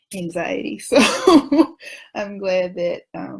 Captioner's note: laughs